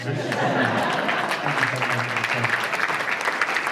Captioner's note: applause